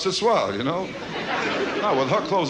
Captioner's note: audience laughs